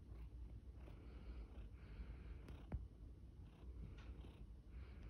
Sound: cat purring

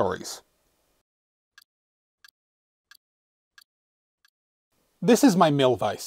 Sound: ticking sound

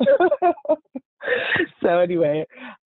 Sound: laughing

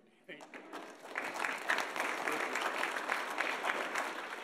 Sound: audience applauding

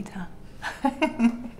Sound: woman laughs

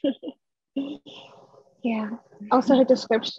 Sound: chuckles

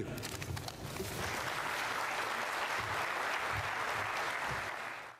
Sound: applause

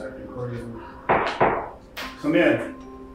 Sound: door knocking

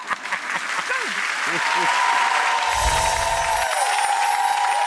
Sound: audience applauds

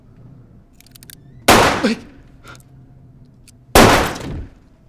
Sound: gun booming; gun booming

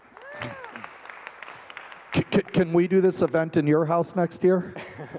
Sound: laughing

